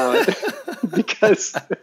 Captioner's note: both laugh